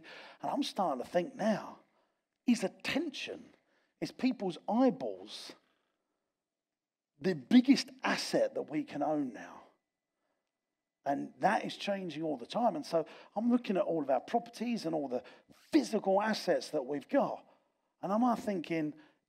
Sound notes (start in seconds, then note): none